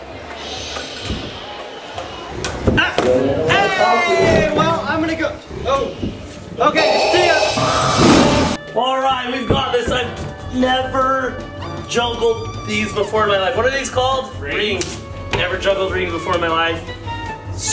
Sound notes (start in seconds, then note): 8.0 tiger roars